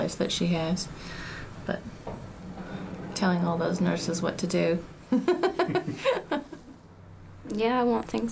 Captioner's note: laughs